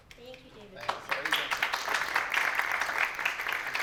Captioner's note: applause